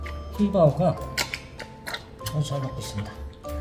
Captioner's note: gulps